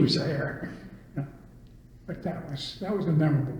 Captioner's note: laughs